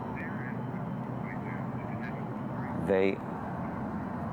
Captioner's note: on phone